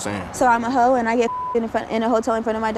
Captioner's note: beep